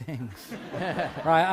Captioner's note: laughter